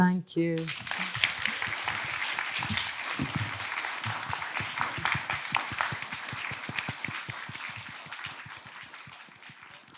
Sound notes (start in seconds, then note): 1.0 audience clapping